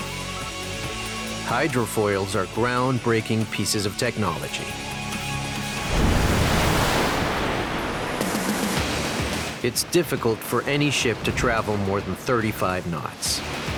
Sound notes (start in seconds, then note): 6.8 water crashing